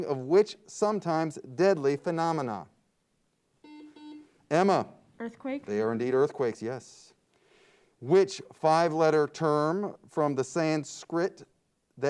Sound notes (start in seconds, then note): 3.6 buzzer beeps